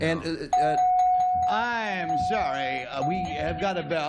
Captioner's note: bell